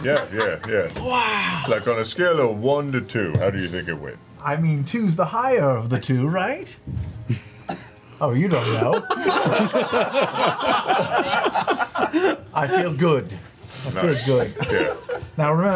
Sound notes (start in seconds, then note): 8.8 all laugh